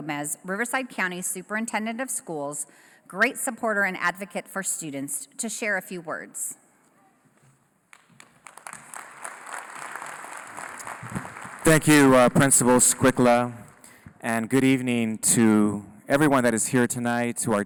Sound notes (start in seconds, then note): 7.9 applause